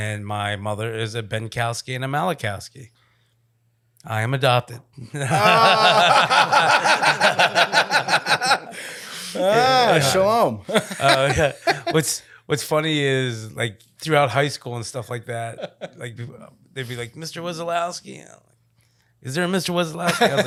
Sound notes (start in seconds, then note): 5.2 laughing